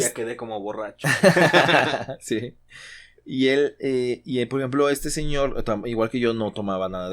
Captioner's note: laughs